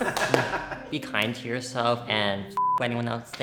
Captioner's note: everyone laughing; beep